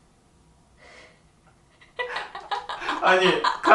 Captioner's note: laughing